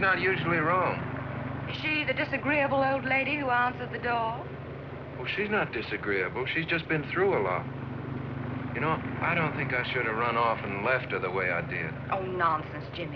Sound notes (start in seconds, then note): none